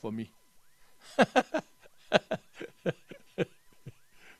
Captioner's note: laughs